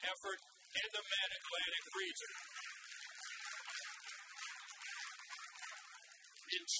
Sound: audience applauds

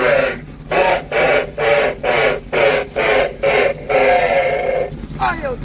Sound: evil laugh

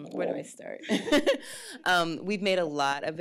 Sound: laughs

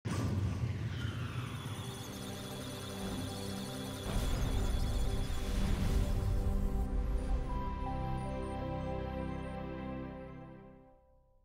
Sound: electronic sounds of data

